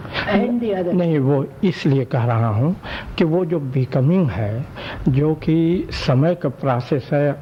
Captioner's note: discussion In Hindi